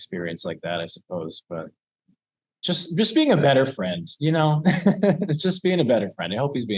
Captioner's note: laughs